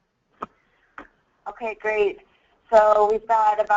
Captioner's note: voiceover